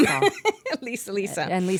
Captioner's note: laughing